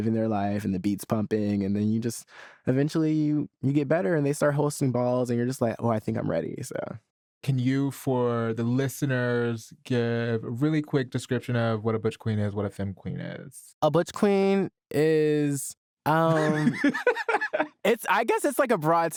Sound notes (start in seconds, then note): 16.1 laughs